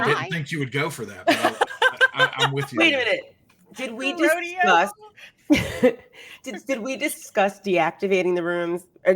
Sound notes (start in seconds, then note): 1.2 laughing; 5.9 chuckles